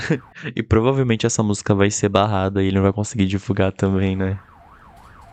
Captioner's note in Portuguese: risos